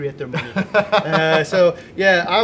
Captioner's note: laughs